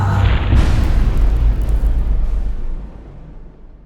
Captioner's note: impact